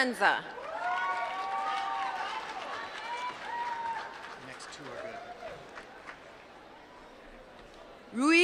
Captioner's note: applause